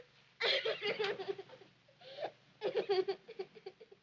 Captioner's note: sobbing